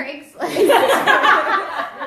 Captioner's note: laughs